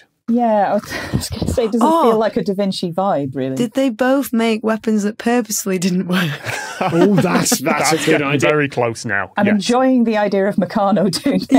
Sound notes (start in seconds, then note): 6.2 laughs; 11.4 laughs